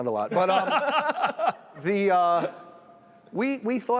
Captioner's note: laughter